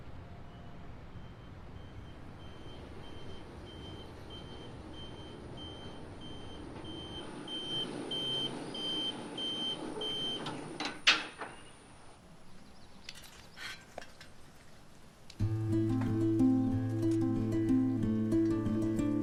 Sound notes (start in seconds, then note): 7.5 beeping; 10.8 metal clanging; 15.4 light guitar music